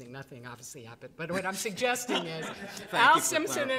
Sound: all chuckling

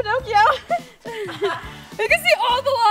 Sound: laughing

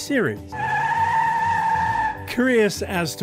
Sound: tire screeching

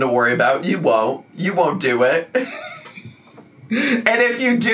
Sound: laughs

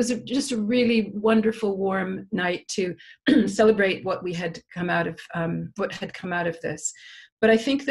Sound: cough

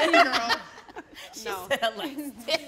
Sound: all laughing

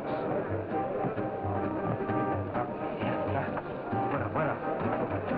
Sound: speaking in foreign language

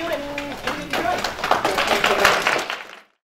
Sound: audience clapping

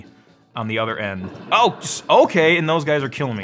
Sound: exploding

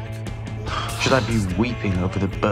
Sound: Julian and Miles sigh

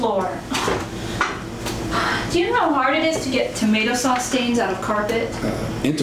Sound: sighs

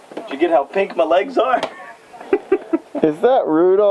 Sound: laughs

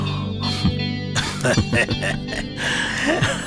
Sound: laughs

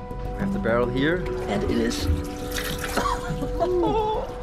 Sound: laughs

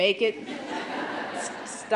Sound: laughter

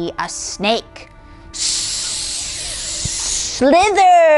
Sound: mimicking a hissing snake; laughs

